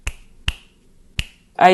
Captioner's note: snap